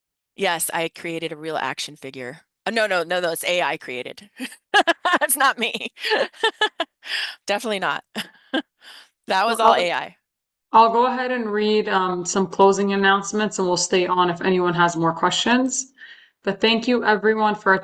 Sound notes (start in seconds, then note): 4.4 laughter; 5.8 laughing